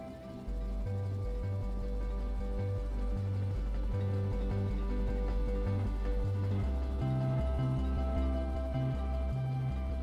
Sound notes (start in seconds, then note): none